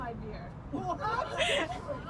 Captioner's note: Becca giggling